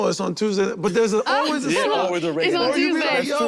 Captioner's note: group laughs